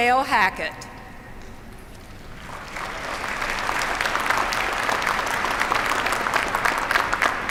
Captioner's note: applause